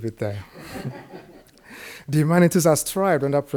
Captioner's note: audience laughs